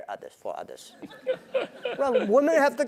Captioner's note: laugh